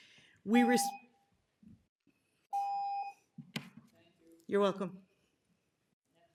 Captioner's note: timer tone